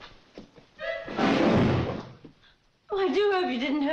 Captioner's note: thief thuds